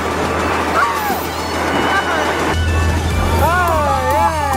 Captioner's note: seagull cawing; muffled cheering